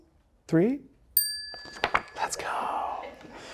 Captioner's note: bell dings